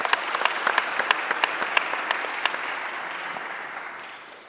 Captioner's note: audience clapping